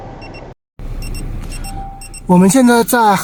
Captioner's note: coolant overheat alarm beep